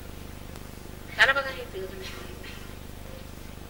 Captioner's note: mother speaks in marathi